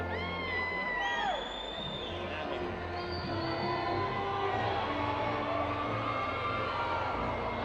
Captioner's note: crowd cheering